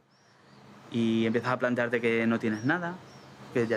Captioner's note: speaking Spanish